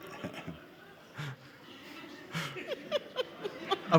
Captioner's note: all giggling